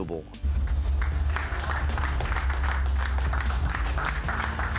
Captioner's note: group claps